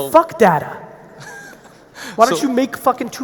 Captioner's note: laughing